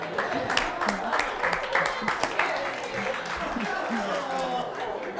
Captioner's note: audience applauds